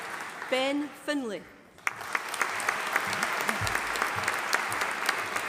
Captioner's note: audience applauding